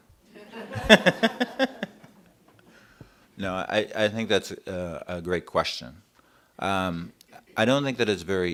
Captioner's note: laughter